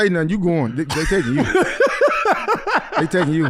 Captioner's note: laughing